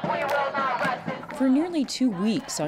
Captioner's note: chanting